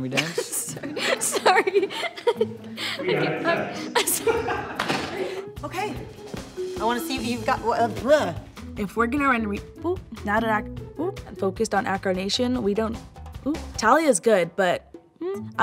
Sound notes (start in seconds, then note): 0.2 laughing; 2.7 laughs